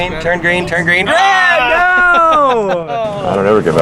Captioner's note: both yelling; laughing